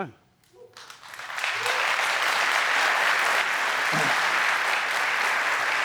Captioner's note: cheering, applause